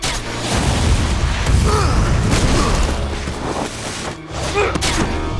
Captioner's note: explosion